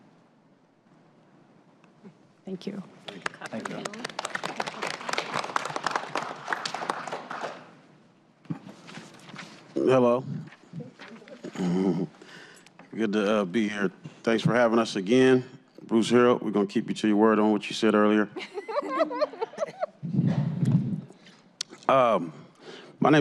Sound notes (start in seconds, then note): 3.0 applause